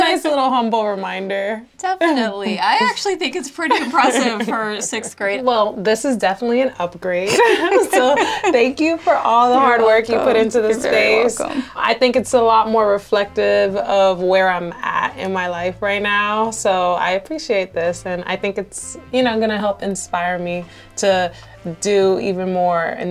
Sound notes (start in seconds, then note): 7.3 laughs